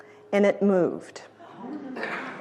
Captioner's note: audience gasps